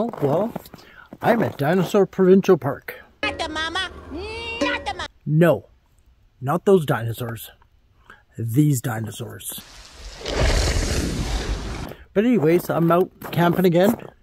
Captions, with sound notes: Well, I'm at Dinosaur Provincial Park. - Got the mama. - Mm. - Got the mama. - No, not those dinosaurs, these dinosaurs. (water rushing) But anyways, I'm out camping again.